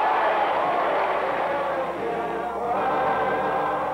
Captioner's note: applause